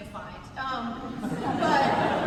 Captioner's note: laughter